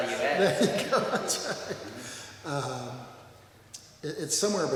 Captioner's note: laughs